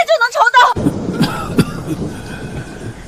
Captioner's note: cough, cough, cough